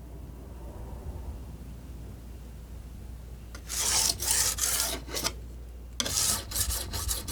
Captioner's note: scraping